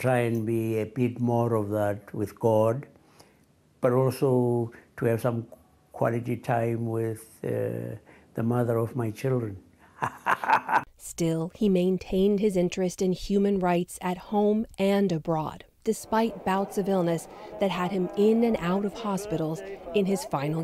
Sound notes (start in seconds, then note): 9.9 laughter